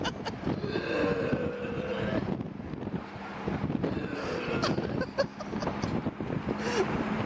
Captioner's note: camera person laughs; wind whooshing; pukes